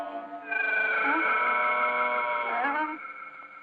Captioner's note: groaning